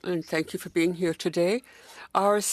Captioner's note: speaking French